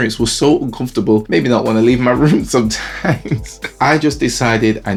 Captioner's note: laughs